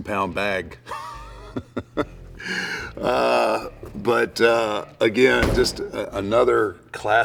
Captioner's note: laugh